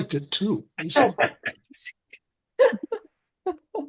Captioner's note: laughing